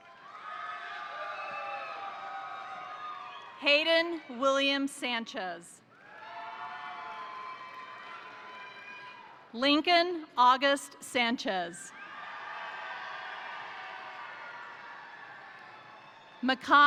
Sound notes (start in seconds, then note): 0.0 crowd cheering; 0.0 crowd applauding; 5.9 crowd cheering; 6.0 crowd applauding; 11.9 crowd cheering; 12.0 crowd applauding